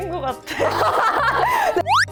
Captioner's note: hahaha